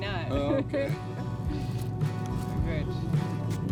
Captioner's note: both laugh